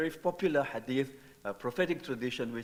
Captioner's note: speaking in foreign language